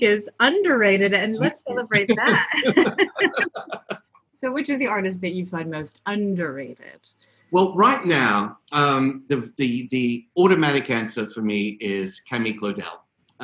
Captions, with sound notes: is underrated and let's celebrate that. (both laugh) So which is the artist that you find most underrated? - Well, right now, the automatic answer for me is Camille Claudel.